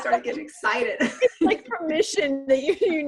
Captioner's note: laughs